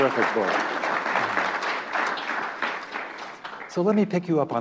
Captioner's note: applause